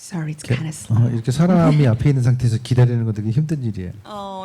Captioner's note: speaking korean